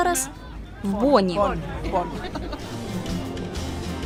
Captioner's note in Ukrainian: сміються